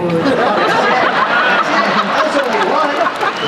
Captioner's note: laughter